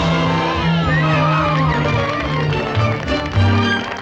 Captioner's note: cheering and applause